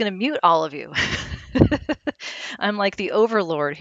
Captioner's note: laughs